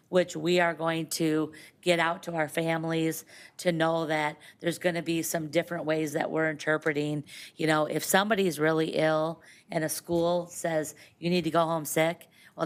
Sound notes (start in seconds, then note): none